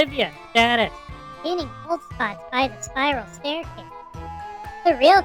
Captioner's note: whispering, excited